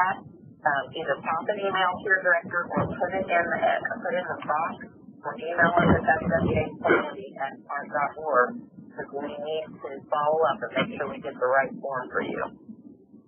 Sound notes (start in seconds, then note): 6.8 coughing